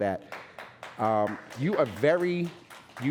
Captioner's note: audience applauding